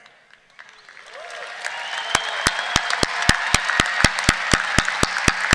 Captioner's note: audience cheering